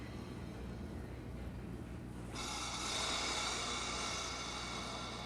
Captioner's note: machine hissing